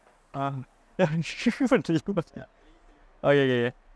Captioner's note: mumbling laugh